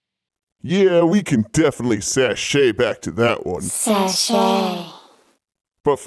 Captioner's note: other mouth Voices